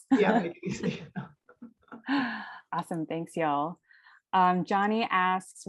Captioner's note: laugh